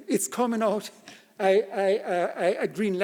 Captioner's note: laughs